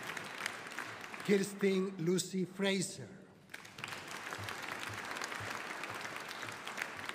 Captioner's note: audience applauding